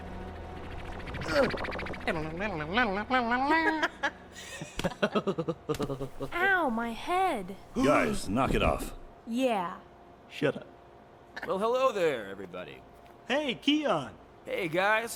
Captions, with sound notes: (Tim humming) (Becky and Tyler laughing) - Ow, my head. - Guys, knock it off. - Yeah. - Shut up. - Well, hello there, everybody. - Hey, Keon! - Hey, guys!